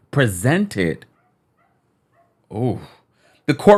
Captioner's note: dog barking